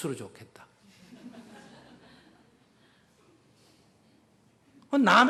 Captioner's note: audience Laughter